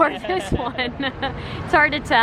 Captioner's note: laughs